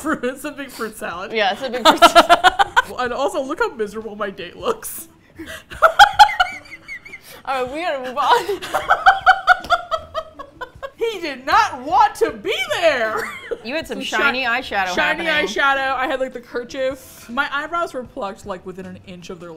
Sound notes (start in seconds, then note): 2.5 both laugh; 8.2 laughing; 8.2 laughs